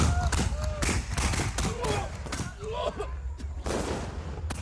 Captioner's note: retching, vomiting